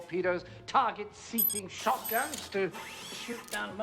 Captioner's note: beep, machine whirring, click